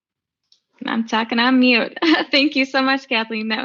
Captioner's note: laughing